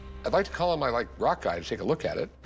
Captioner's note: none